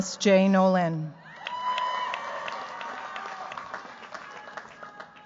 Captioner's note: cheers, applause